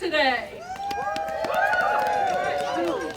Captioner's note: cheers